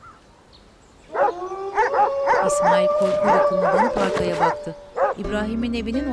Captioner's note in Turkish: Kurt uluma sesi; Köpek havlama sesi